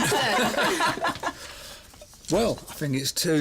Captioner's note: laughs